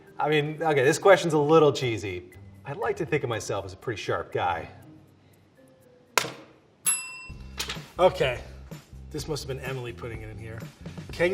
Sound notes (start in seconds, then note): 6.8 bell ringing